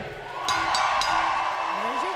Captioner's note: bell ringing